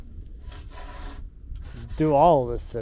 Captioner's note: foam scraping